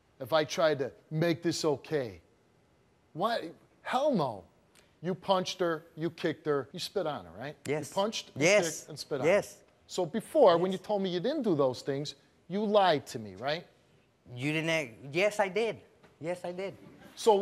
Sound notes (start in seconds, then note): none